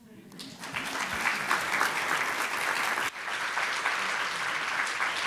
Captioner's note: audience applauding